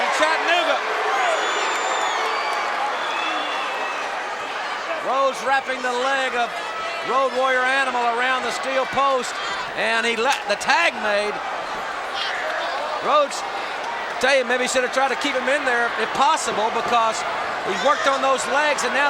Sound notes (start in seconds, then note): 0.7 crowd shout